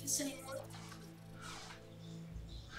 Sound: robotic beeps

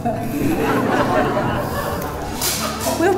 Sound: laughs

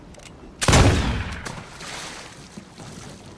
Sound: gunshot; splash

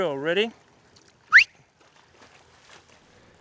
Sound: whistle blow!~

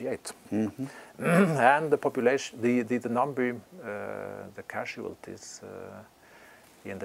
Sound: cough

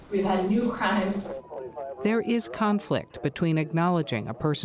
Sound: police chatter on radio

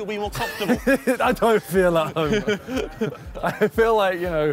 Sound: laughing

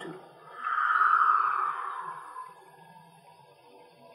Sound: exhale

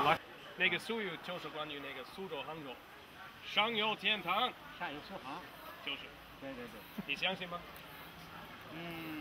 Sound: conversation in Mandarin

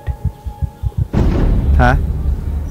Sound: suspenseful crash

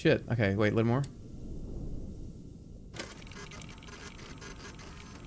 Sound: machine whirring

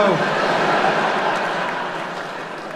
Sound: laughter

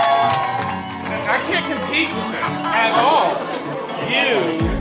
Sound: cheers and applause

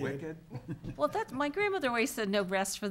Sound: people chuckling

